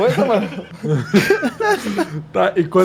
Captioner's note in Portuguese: risadas